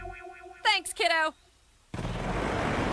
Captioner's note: engine roars